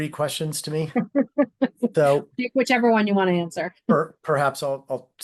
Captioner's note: chuckles